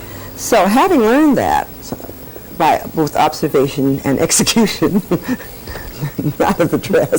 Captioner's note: laughs